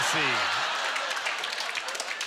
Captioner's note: applause; audience laughter